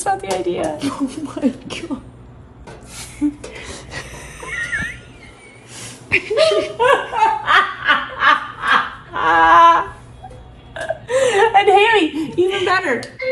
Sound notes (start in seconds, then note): 2.9 mom and laughing